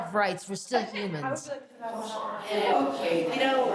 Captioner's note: inmates chattering